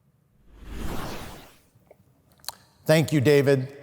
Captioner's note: whooshing sound effect